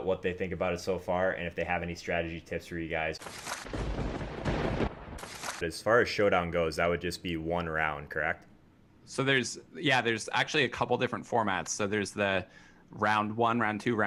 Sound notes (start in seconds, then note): 3.2 lightening; 3.6 thunder